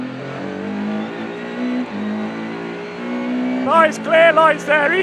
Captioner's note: car engine roaring